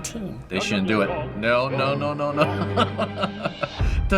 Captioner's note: laughing